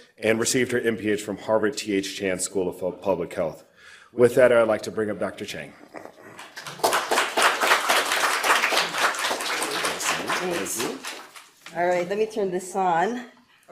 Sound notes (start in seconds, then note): 6.3 audience applause